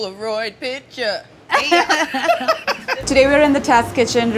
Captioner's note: laughter